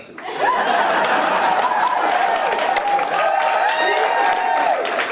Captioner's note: audience cheering